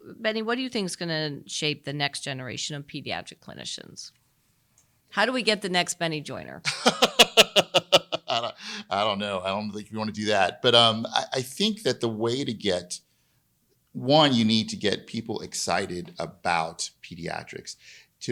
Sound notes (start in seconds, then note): 6.6 chuckling